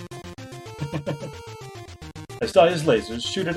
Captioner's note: chuckles